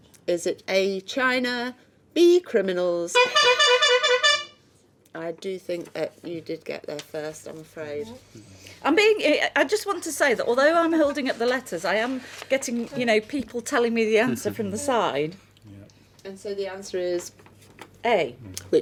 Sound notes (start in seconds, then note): 3.2 buzzing